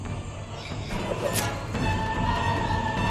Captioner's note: wailing stops